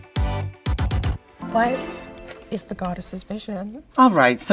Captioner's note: chimes chiming